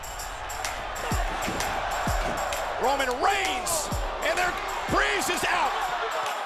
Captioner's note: applause